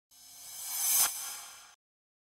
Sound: digital tone

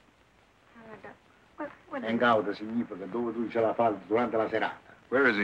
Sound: non-english speech

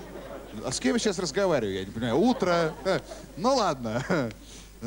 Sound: laughter

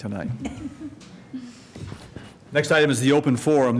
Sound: laughter

